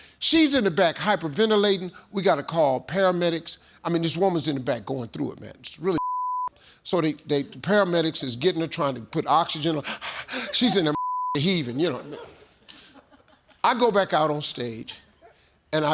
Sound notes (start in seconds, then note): 9.8 heavy breathing